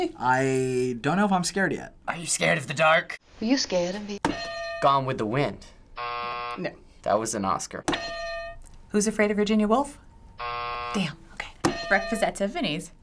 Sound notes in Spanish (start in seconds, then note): 8.0 sonido de campana